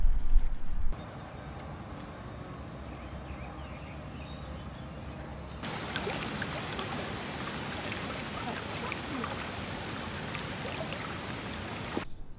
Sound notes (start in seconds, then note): 0.0 soft wind; 1.0 birds chirping; 5.6 water trickling